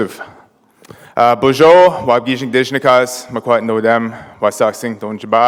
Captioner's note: foreign language